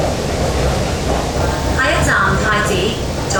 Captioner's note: Cantonese